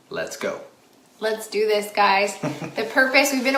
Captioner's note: chuckles